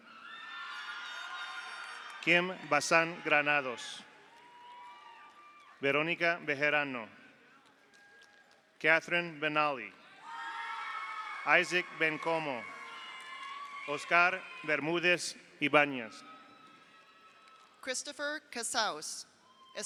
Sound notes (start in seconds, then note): 0.0 audience cheers; 0.2 audience applauds; 4.1 audience cheers; 7.5 audience applauds; 10.1 audience cheers; 10.2 audience applauds; 13.0 audience cheers; 15.7 audience cheers; 16.4 audience applauds